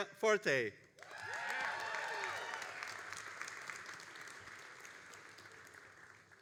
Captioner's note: all applauding and cheering